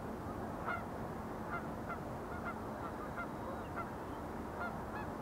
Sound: birds chirping

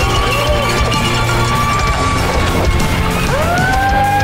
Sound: crowd; dramatic music; crowd; dramatic music

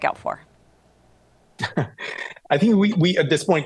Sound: chuckles

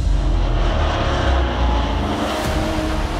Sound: engines roaring

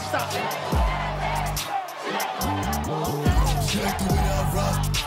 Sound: crowd chanting

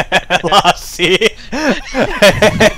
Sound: laughing

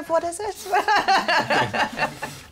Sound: laughs

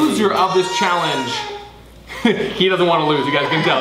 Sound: cries

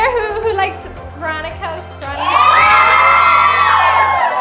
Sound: cheering

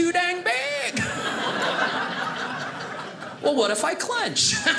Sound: audience laughing

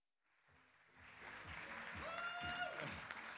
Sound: applause

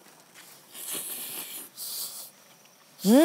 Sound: slurping

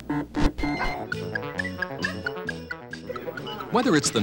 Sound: digital beeping; electronic piano

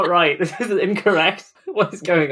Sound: laughing

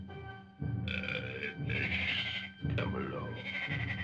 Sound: caveman speaking

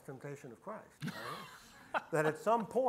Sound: laughs

